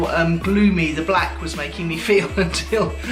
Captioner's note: laughs